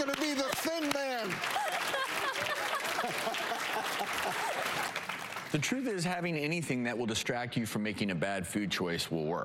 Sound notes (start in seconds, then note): 0.0 applause; 1.4 laughter; 3.4 applause